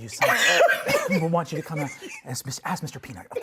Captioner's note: laughing